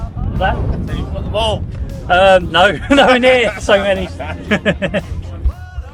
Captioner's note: laugh